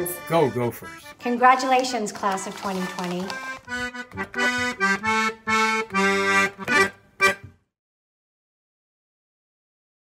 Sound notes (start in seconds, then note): 1.7 paper crinkling; 3.7 jaunty accordion music